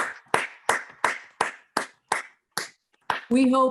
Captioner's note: group applauds